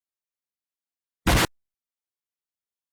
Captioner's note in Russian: Взрыв